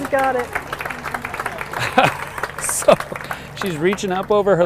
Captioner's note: laughs